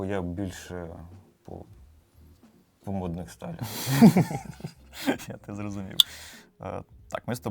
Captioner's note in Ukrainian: сміх